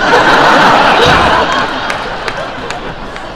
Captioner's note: crowd laugh